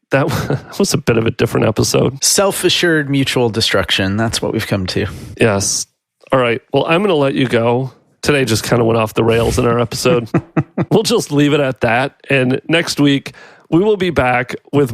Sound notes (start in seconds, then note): 9.6 laughs